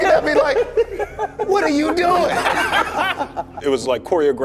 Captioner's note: everyone laughing